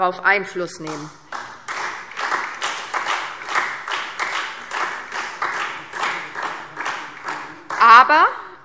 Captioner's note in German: Beifall SPD